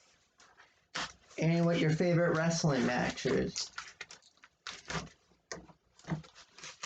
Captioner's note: ripping of packaging tape